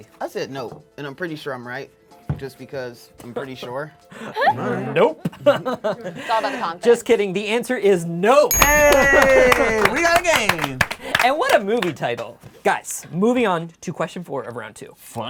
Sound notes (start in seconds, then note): 8.5 bell dings; 8.5 cheering